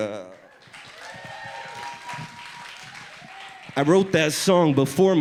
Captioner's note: audience applauds